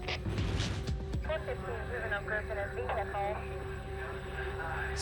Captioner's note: police radio chatter